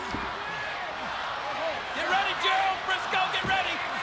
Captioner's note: audience chanting and clapping